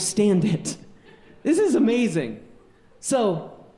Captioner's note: audience laughing